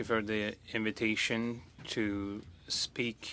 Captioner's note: speaking French